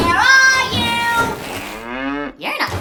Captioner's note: cow moos